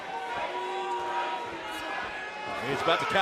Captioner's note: cheers & boos